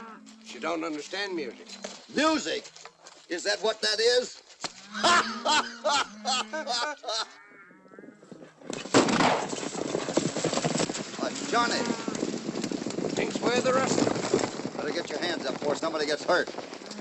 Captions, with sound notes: - She don't understand music. - Music? Is that what that is? [ GUFFAWS ] [ GUNSHOTS AND HORSES GALLOPING ] It's Johnny. Thinks we're the rustlers? Better get your hands up before somebody gets hurt.